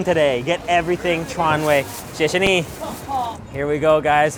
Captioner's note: foreign language